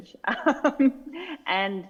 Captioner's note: laughing